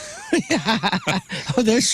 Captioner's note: laughing